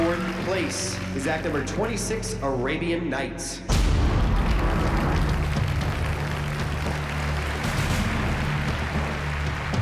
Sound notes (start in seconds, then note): 4.1 applause; 8.5 suspenseful music